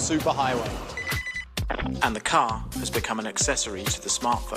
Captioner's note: phone ringing